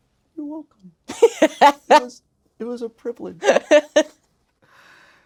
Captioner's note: Blu laughing